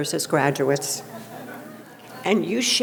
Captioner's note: audience laughing